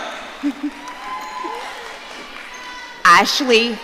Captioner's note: audience cheering